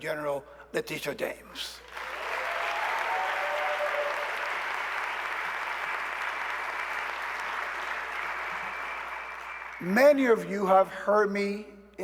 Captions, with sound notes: including our very own New York State Attorney General, Letitia James. [ Cheers and applause ]